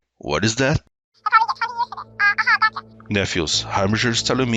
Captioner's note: Totally Harbinger worried sounds